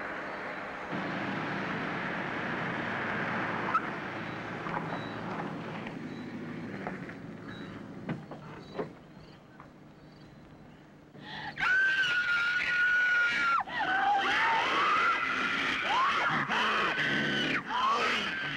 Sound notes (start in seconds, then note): 11.4 screaming; 15.1 growling